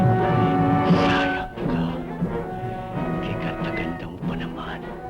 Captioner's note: sinister music; speaking filipino